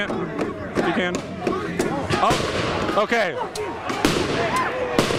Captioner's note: shots fired - explostions